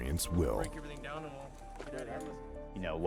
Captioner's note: voiceover